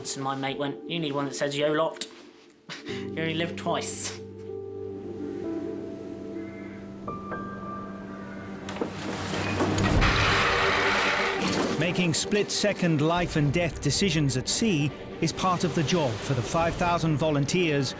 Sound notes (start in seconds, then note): 10.2 chains clatter; 10.2 dramatic music